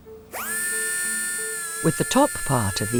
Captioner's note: tool whirring